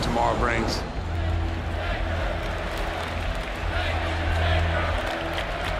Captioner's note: crowd cheering